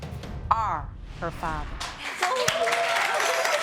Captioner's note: sobbing